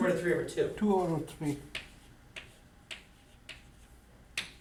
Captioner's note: voiceover